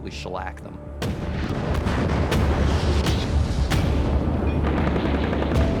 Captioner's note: booming